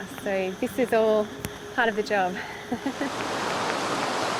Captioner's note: laughs